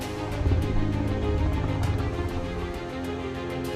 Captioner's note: low growling